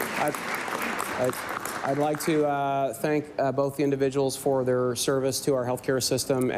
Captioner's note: applause